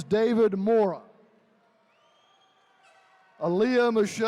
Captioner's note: attendees cheering